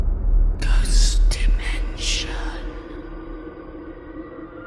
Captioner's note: ghostly Voice